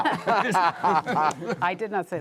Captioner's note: laughter